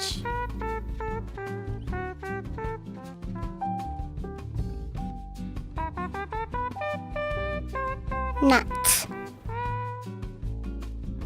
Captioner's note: kids speaking Cheyenne numbers